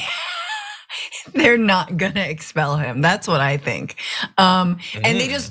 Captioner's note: laugh